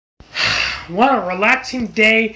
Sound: sighs

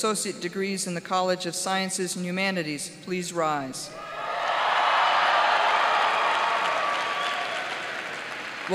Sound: cheers and applause

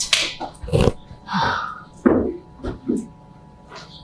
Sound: Kate scoffs

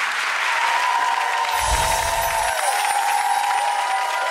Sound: applause

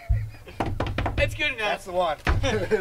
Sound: laughs; feet tapping; laughing

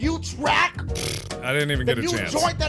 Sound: mouth farth

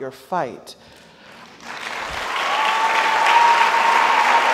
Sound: audience applauds

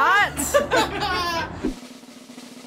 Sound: laughing; drum roll

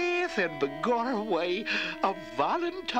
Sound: in irish accent

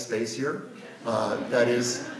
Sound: audience laughs

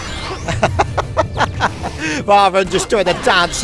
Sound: laughter

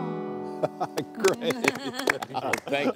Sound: applause

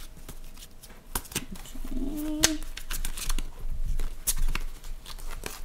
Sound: shuffle-shuffle-shuffle-shuffle

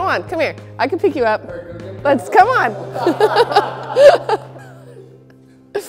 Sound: laughter

